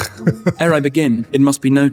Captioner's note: laugh